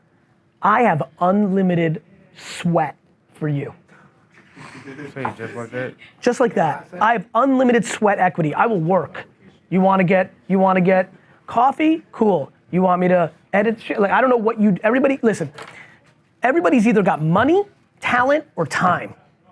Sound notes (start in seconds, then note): 4.4 laughs